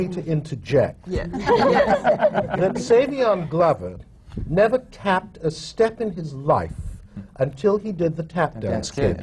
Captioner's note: laughter